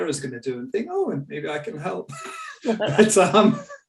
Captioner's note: chuckles